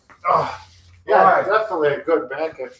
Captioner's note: grunts